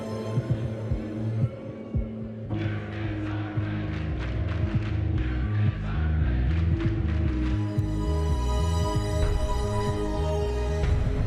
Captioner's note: crowd cheering